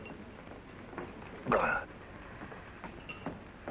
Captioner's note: Maine gags